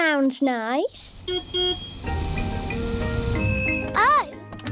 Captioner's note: car horn beeps